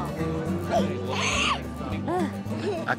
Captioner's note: laughs